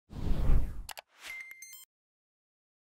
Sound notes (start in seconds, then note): 0.1 whooshing